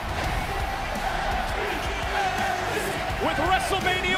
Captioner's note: crowd chants "nxt"